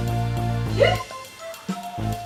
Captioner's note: hiccup